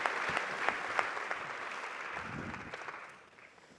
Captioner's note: applause